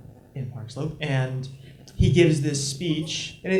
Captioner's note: none